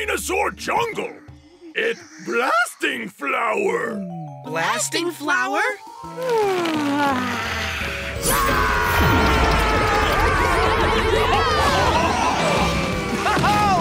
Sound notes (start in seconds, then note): 8.2 screaming